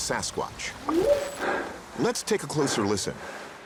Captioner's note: whooping sound